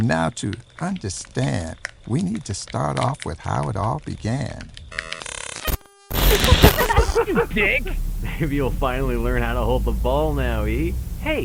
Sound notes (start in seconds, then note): 6.2 laughter